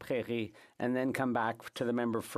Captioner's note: speaking French